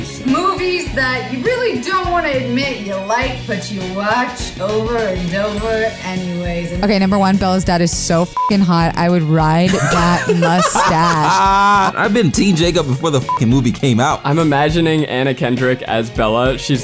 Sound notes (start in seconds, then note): 8.2 beep; 13.2 beep